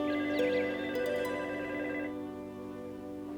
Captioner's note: phone ringing